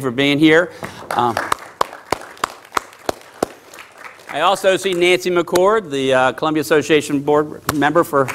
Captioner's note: applause